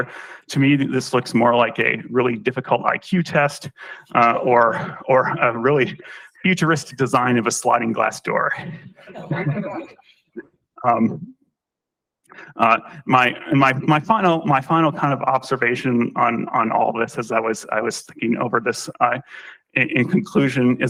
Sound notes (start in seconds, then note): 9.0 laughter